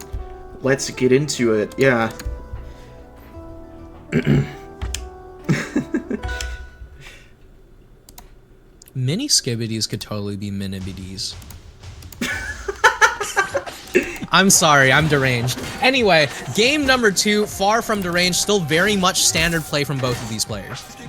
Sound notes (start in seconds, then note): 4.1 clears throat; 5.4 laughs; 12.2 laughs